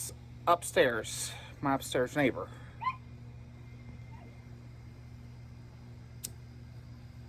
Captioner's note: Ella barks from inside